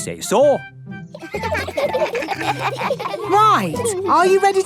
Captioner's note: children giggling